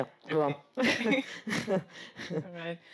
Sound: laughs

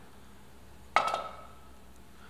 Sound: clink

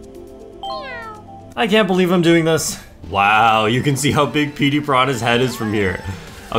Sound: meow

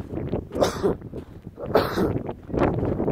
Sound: wind whipping; coughing

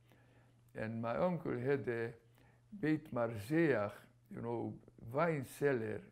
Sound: non-english

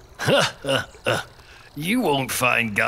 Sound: chucking

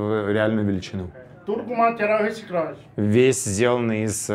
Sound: speaks Portuguese

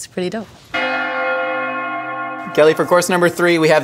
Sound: bells Ringing

